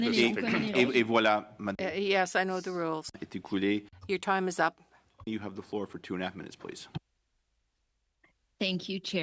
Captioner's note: speaking French